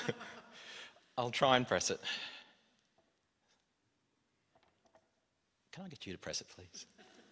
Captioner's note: laughter